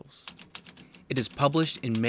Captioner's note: keys tapping